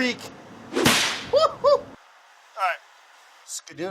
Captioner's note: whipping